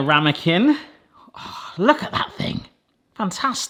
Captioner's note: gasps